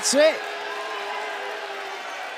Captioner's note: cheers and applause